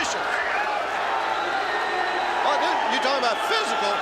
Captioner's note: crowd chatter